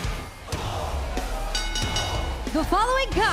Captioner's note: bell ringing